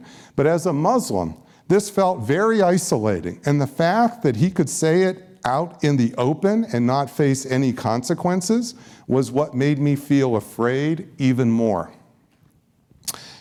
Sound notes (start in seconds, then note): none